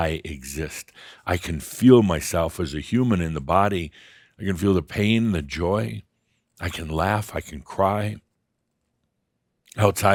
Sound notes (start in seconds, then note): none